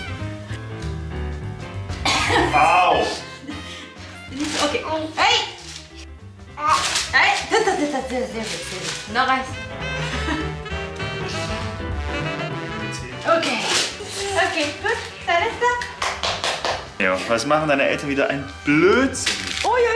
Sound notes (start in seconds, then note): 2.0 sneeze